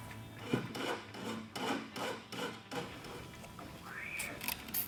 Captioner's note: filing sound